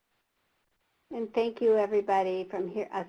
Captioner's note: voiceover